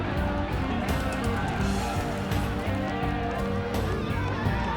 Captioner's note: crowds chanting